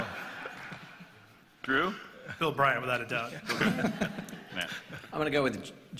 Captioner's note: laughter